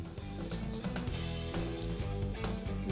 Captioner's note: skin crunching